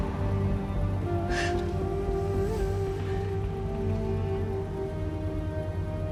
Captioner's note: sobbing